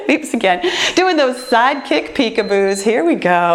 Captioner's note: timer beeps